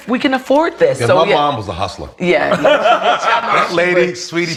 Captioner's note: laughs